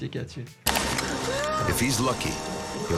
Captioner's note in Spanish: maquinaria zumbando